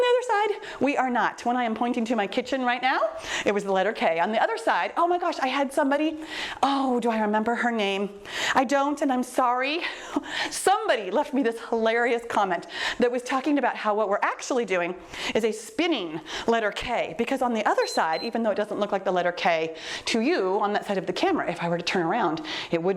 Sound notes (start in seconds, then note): 17.7 timer beeps